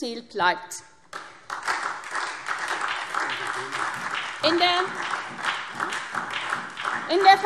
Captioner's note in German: Beifall SPD